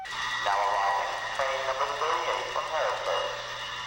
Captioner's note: voiceover